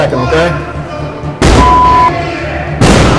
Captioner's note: another loud slam; loud slam